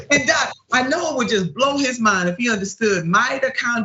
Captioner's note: laugh